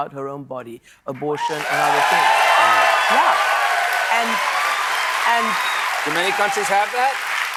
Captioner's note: cheers and applause